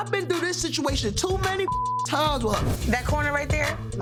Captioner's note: beeps